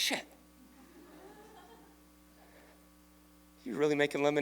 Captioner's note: laughter